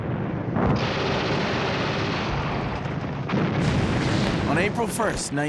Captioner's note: explosions and gunfire